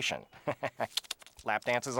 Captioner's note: chuckles